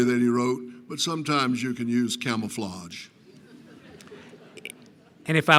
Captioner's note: laughter